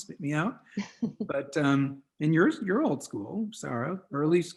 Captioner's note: chuckles